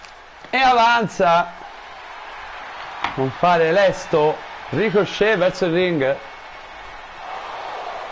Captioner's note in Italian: Applauso; Applauso